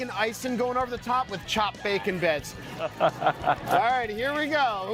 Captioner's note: laughter